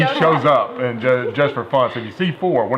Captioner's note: laughter